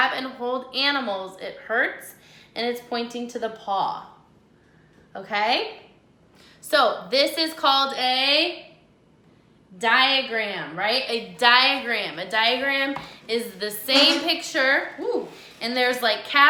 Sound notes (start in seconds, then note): 13.9 chair scraping